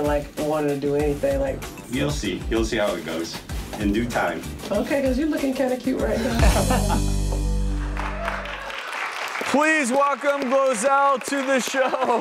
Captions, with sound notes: like wanting to do anything. You'll see. You'll see how it goes. In due time. Okay, 'cause you lookin' kinda cute right now. (laughing) (audience applause) Please welcome Glozell to the show.